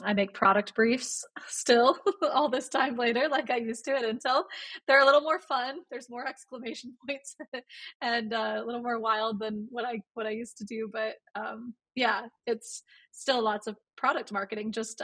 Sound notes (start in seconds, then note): 7.6 laughs